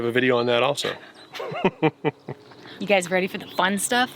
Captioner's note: chuckling